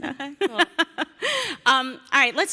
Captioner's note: laugh